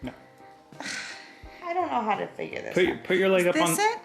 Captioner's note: sighs